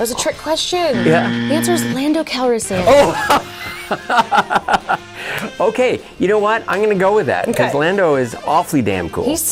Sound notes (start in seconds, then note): 2.8 laughing